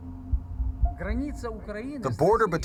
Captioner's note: speaking foreign language